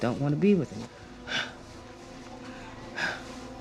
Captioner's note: panting